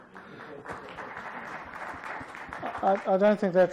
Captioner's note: applause